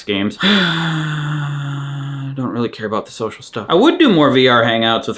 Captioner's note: sighs